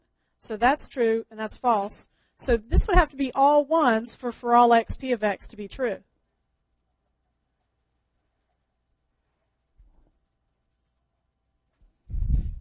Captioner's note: long pause